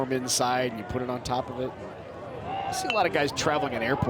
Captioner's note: bat dings